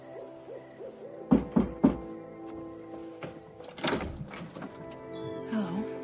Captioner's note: knocking